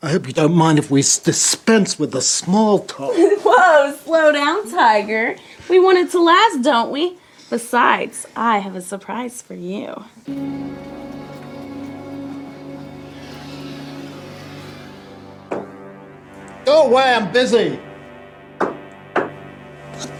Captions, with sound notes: I hope you don't mind if we dispense with a small cock. [woman laughs] - Woah. Slow down, tiger. We wanted to last, don't we? Besides I have a surprise for you. [eerie music] [knock] Go away, I'm busy. [continue knocking]